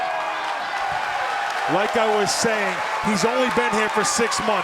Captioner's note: cheers & applause